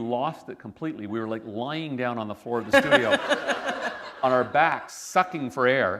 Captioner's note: laughter